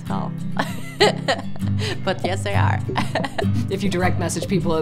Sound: laughs

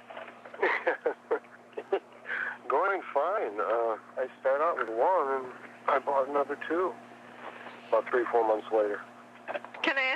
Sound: chuckle

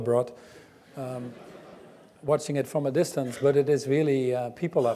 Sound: laugh

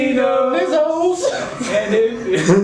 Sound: laughter

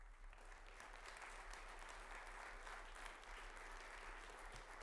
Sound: audience applauding

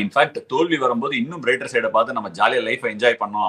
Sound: none

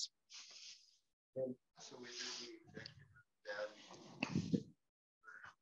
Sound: participant faintly speaking

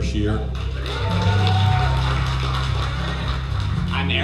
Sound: cheering

